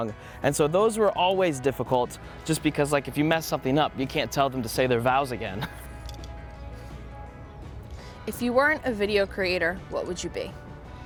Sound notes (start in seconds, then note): 5.5 chuckles